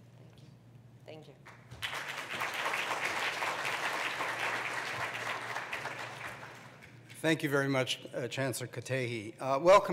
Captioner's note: applause